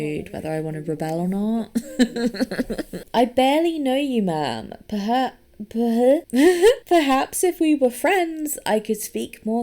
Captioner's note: laughs